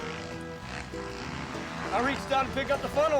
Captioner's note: engine rumbling